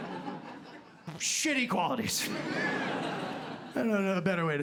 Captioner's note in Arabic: ضحك